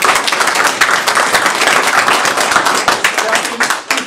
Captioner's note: audience applauding